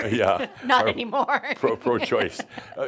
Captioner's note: she laughs